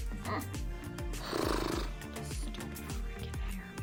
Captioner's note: blowing lips